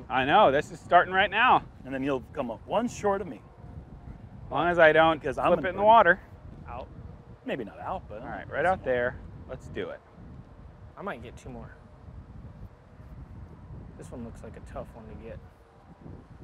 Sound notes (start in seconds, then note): none